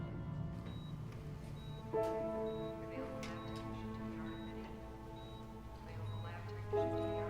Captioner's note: tense piano music; monitor beeping